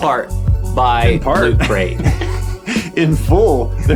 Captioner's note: group chuckling